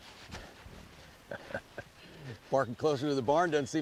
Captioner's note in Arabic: سروال سولومون، كيسي يضحك